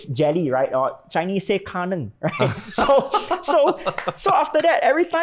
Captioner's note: laughs